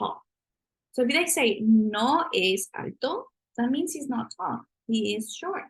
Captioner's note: spanish